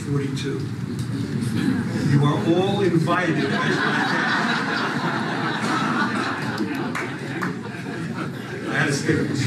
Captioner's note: laughter